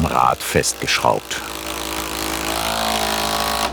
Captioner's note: rattling